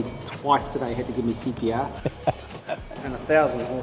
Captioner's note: chuckles